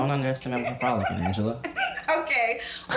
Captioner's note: laughing